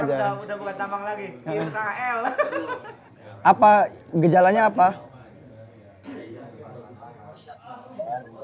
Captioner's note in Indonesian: tertawa